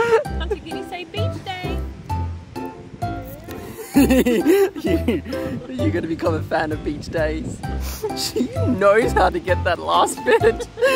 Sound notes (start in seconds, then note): 3.7 laughs